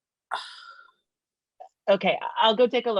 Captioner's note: scoffs